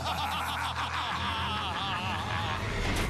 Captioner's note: both cackling